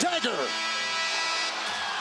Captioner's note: buzzer sounding